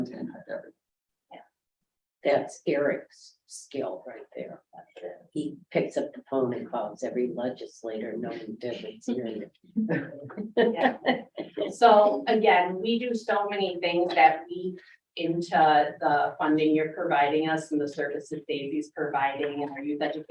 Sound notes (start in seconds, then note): 9.9 all chuckling